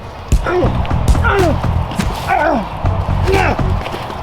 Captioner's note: man grunts